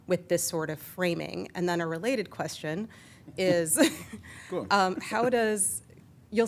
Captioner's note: laughter